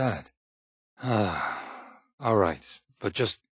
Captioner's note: exasperated sigh